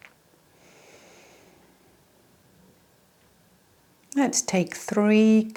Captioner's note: inhales deeply